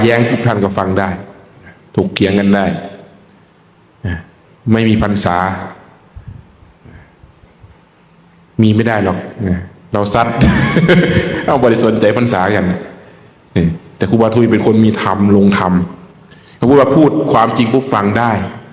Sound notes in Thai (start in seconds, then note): 10.4 เสียงหัวเราะ